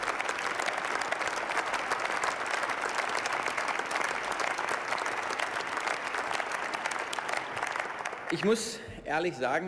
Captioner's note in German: Beifall